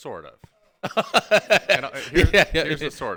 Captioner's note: laughing